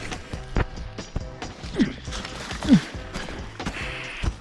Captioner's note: footsteps crunching